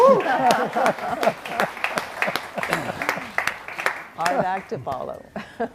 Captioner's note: crowd cheering and applauding